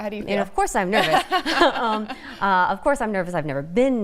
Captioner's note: laughter